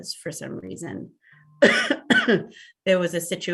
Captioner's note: coughs